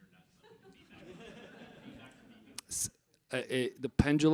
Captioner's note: audience laughs